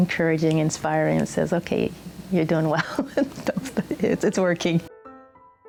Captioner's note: laughs